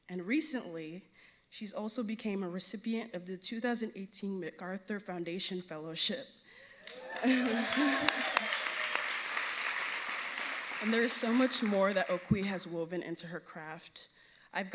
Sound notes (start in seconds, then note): 6.8 audience cheering and applauding